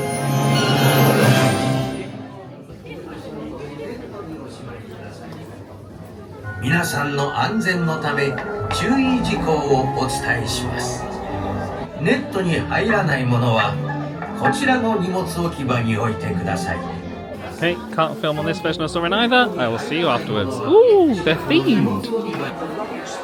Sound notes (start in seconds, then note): 0.0 dramatic orchestral music; 4.0 crowd murmuring; 6.9 announcer speaking Japanese